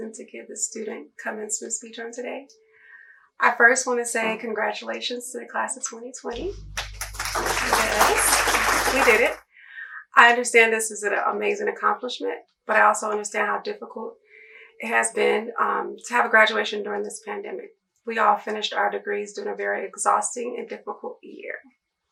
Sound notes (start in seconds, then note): 6.4 applause